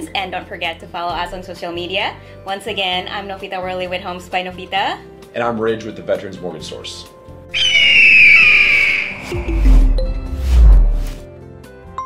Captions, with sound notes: and don't forget to follow us on social media. Once again, I'm Novita Worley with Homes by Novita. - And I'm Ridge with the Veteran's Mortgage Source. (loud piercing sound) (upbeat music)